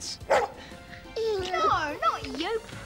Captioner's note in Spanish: el perro ladra